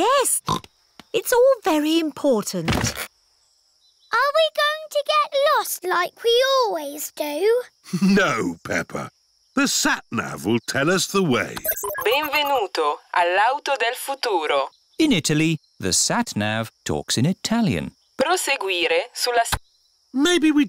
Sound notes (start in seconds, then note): 0.0 snorts; 8.2 chuckles; 11.6 beeps; 14.3 speaks italian; 18.5 sat nav talks in italian